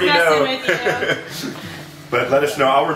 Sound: laughing; laughs

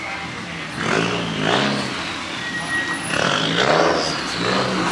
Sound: car engine revs

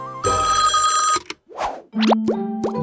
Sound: phone ringing

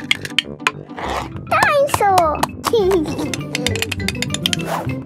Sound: giggling

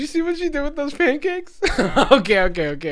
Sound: laughing

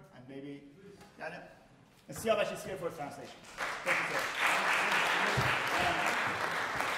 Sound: speaking in farsi

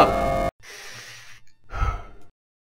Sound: deep breath

